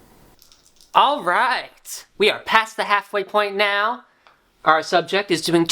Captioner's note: sound of rolling dice